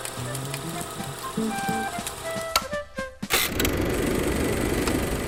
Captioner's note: projector clicking; upbeat music